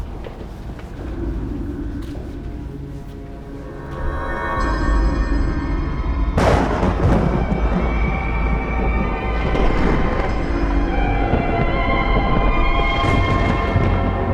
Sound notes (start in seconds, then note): 5.2 thunder rumbles; 5.8 eerie ominous music